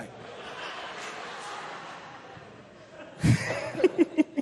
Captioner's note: laughter; chuckles